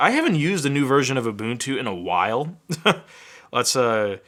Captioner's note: chuckling